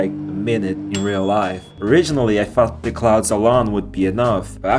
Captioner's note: microwave beep